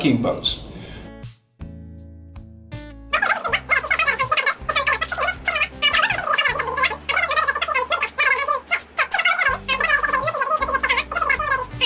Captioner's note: sped up talking